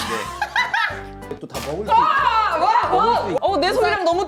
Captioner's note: squeezing sound